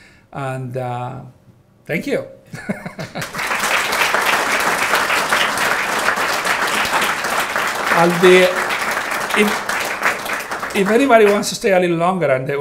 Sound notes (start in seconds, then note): 2.5 laughing; 3.0 audience applauding